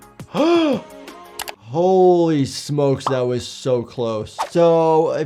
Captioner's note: gasps